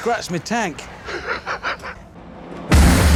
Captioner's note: jeremy laughs